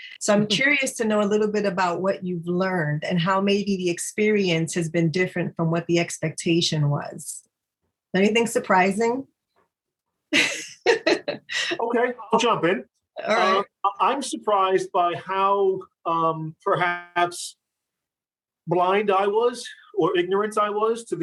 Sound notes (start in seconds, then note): 10.3 chuckles